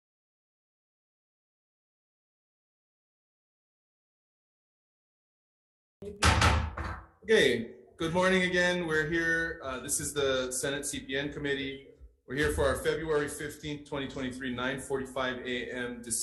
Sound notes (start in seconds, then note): 6.1 gavel bangs